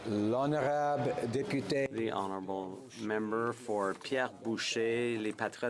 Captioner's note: speaking French